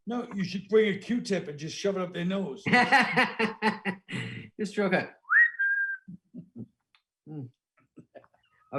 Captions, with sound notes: - No, you should bring your Q-tip and just shove it up their nose. (laughing) "Just real quick." (whistling) Mm.